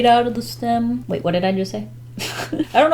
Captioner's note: laughs